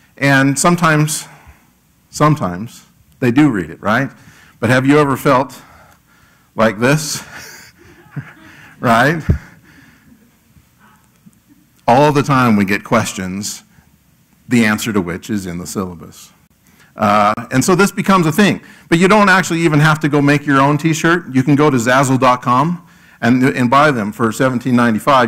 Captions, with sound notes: And sometimes, they do read it right. But have you ever felt like this? [LAUGH] Right? All the time we get questions, the answer to which is in the syllabus. And so this becomes a thing. But you don't actually even have to go make your own t-shirt, you can go to zazzle.com and buy them for $17.95.